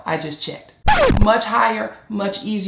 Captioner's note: screeching